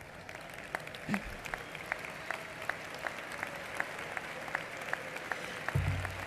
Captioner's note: applause